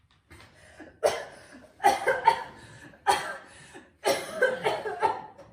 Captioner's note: heavy coughing